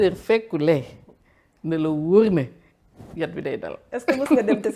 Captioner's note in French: rires